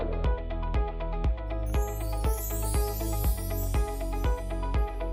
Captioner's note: chimes ringing